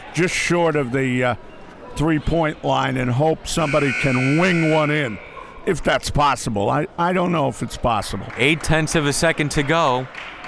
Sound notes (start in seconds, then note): 3.7 clock buzzes; 10.2 crowd clapping